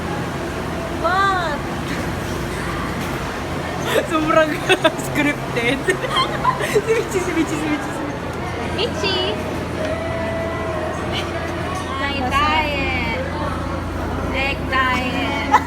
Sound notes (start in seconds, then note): 3.6 laughs